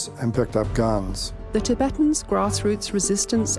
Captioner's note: voiceover